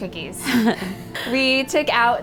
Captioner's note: laughing